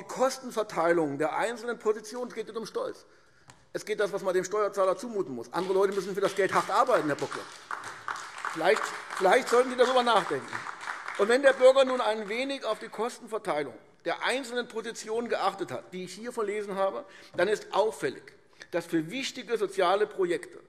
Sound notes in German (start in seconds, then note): 10.4 Beifall AfD